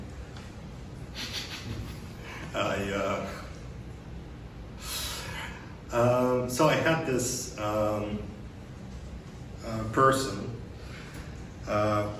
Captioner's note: chuckles